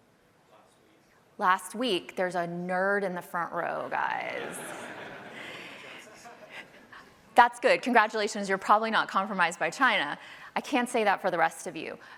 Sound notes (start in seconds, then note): 4.2 laughter